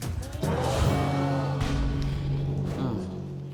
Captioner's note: crowd exclaiming